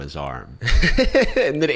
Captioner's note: chuckles